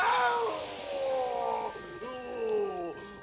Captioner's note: groaning